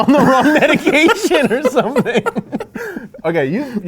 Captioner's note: laughing